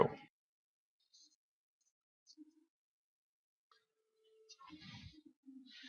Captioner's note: silence